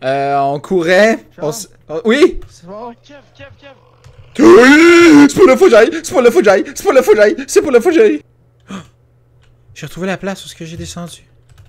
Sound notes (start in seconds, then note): 3.5 roar coming my direction